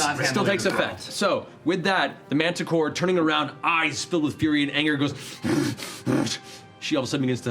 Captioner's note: growling